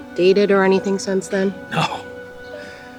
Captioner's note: scoffs